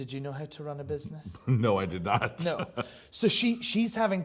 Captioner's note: laughs